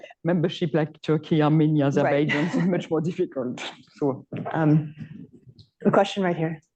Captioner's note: laughs